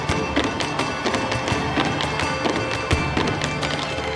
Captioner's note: shoes tapping